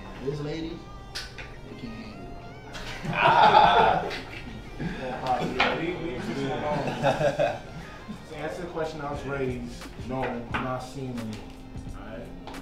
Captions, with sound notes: His ladies cant handle the DICK!!! (Group Laughing) To answer the question what was raised. No I am not seeing anyone, aight...